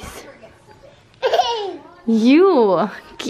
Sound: babbles

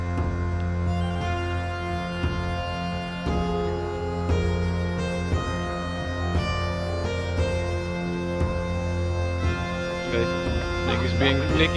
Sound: mysterious Celtic Music; soft background chatter

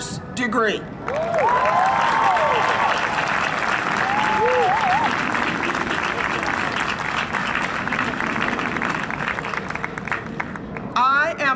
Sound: cheering and Applause

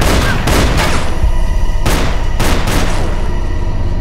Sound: gun firing

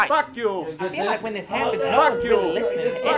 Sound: crying

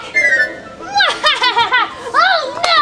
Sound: laughing

